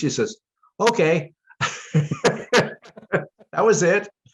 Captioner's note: laughter